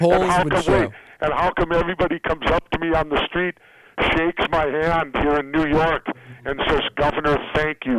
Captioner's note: laughs